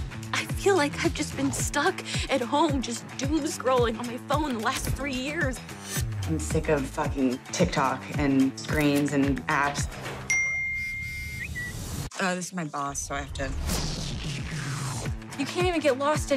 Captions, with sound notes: I feel like I've just been stuck at home, just doom scrolling on my phone the last three years. I'm sick of fucking TikTok, and screens, and apps. (CELL PHONE CHIMES, BUZZES, AND WHISTLES) Uh, this is my boss, so I have to... You can't even get lost anymore,